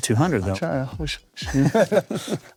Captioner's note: both laugh